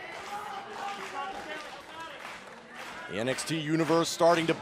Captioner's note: crowd chatter